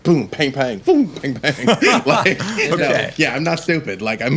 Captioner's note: laughing